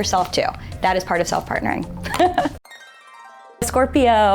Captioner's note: laughs